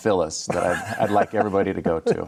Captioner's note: laughing